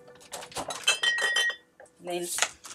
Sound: bottles clanging together

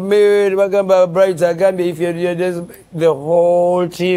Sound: chatting Luganda

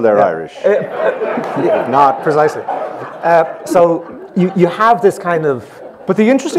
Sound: laughs

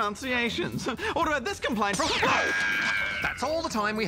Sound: laser fires

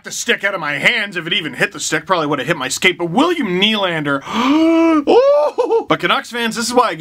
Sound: deep breath

